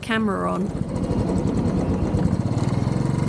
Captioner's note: bike engine